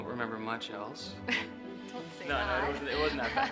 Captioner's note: chuckles